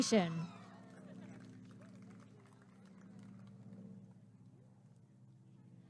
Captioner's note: applause and cheering